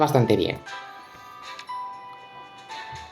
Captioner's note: holding breath